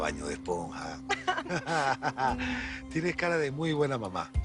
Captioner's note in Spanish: Risas